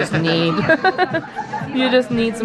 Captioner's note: laughs